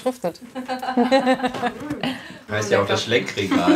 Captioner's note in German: Lachen